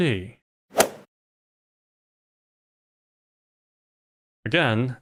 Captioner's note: golf ball hit sound